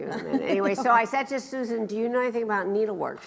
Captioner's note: laughs